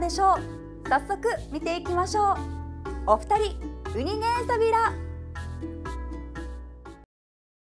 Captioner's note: in Okinawan